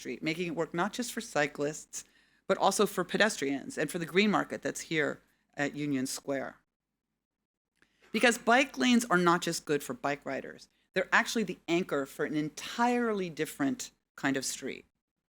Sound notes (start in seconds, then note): none